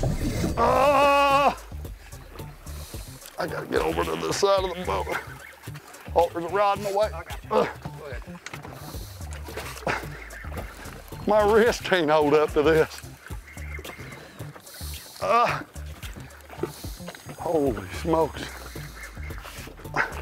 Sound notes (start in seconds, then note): 0.7 yells; 15.2 grunts